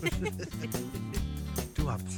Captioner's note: giggling